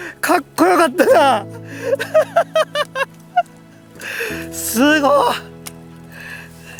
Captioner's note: laughs